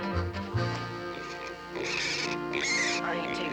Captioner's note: squealing